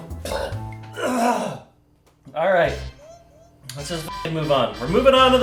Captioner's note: coughs